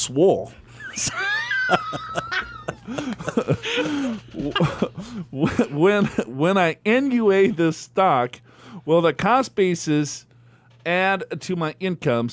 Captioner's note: laughs